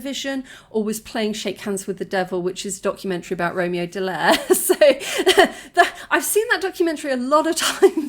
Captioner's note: laughing